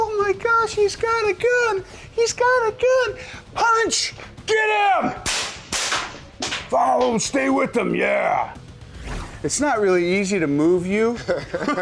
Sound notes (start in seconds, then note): 5.2 gun shots